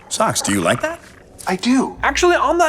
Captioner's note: Socks purring; purring